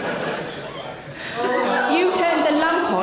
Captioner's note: audience member groan